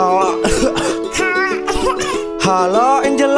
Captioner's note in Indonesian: Batuk